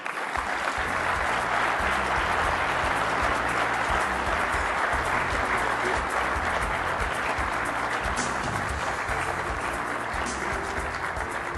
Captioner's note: applause